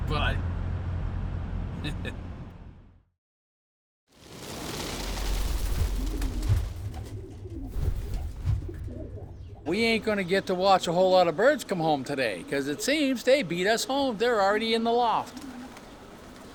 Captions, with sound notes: Bye. (chuckles) (wings rustling) (pigeons cooing) we ain't gonna get to watch a whole lot of birds come home today 'cause it seems they beat us home. They're already in the loft.